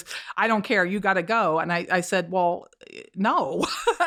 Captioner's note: laughter